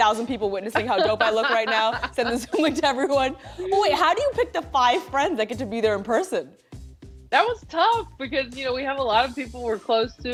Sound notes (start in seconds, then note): 0.7 both laughing